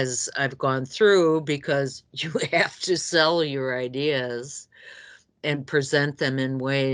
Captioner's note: laughs